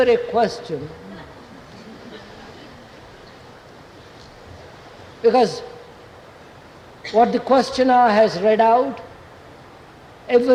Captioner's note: laughter